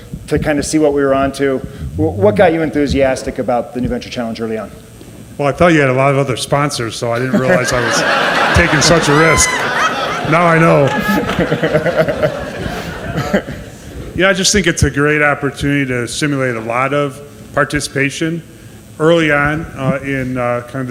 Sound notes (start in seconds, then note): 7.1 audience laughs; 11.4 laughs